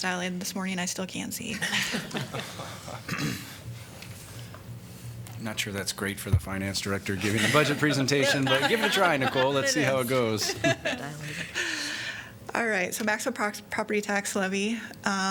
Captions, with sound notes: dilated this morning and I still can't see. [LAUGHTER] Not sure that's great for the finance director giving a budget presentation, [LAUGHTER] but give it a try Nicole. Let's see how it goes. All right. So maximum prox- property tax levy.